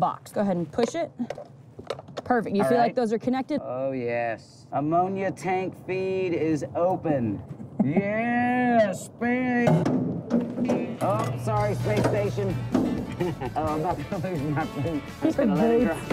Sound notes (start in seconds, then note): 9.6 clunking